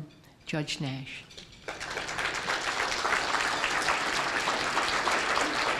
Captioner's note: applause